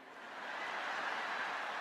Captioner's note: laughter